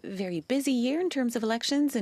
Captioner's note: speaking French